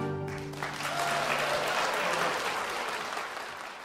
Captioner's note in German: Applaus